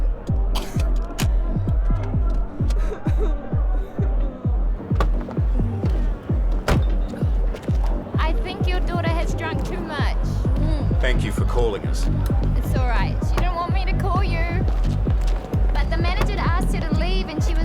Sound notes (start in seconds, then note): 2.7 Rachel crying